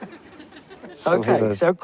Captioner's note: crowd laughs